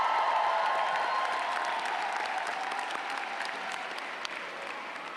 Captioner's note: applause